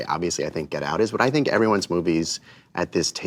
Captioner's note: none